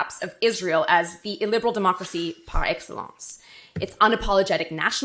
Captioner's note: speaking French